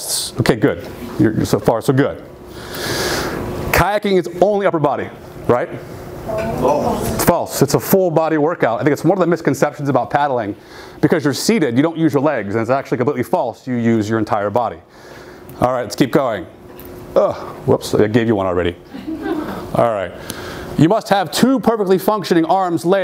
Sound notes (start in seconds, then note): 18.9 audience laughing